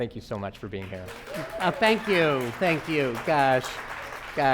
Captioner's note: audience applauding